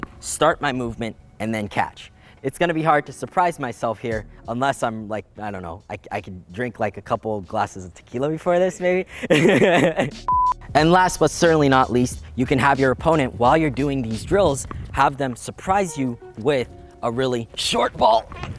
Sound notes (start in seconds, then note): 9.1 laughing